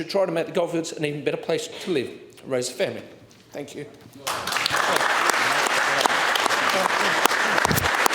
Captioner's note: applause